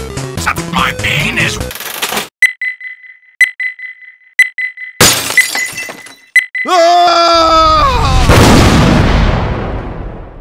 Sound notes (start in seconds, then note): 5.0 glass break; 6.7 scream; 8.0 kaboom